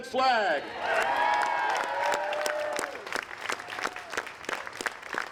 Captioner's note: applause